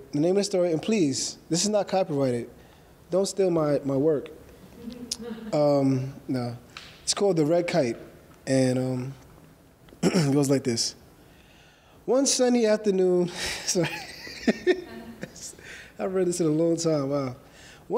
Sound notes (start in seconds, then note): 13.4 laughing